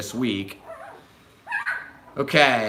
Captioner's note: puppy yaps